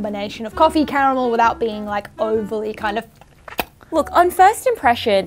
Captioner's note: lips smacking